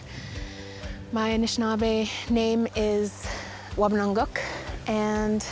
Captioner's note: speaking Ojibway